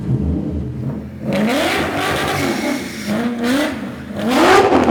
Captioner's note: engine roaring